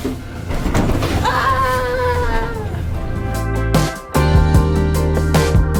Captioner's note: playfully screaming